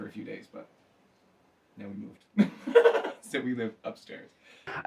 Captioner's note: laughs